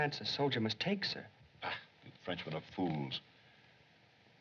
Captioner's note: scoffs